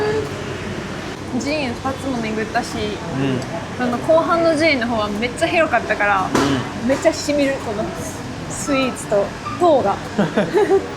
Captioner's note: laughs